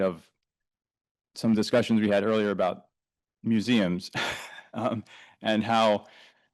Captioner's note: chuckles